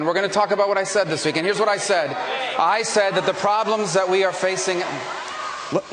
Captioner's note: audience reacting